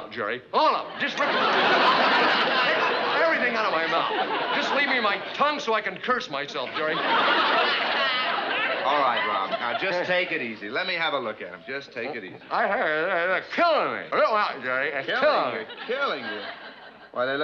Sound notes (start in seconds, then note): 12.7 mumbling